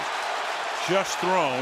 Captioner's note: cheering